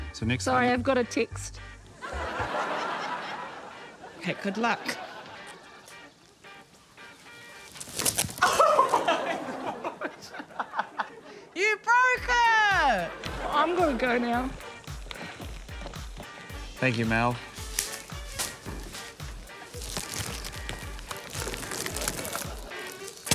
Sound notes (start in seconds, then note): 2.0 audience laughs; 7.2 ripping; 16.8 tape snaps; 20.0 tape rustles